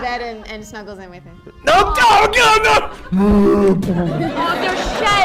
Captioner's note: bear noises